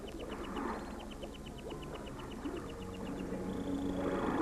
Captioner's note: waves lapping